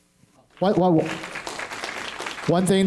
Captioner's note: applause